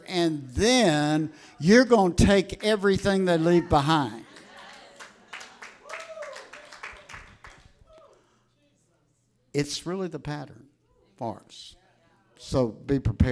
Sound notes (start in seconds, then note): 4.3 audience applauding